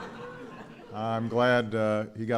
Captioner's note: laughter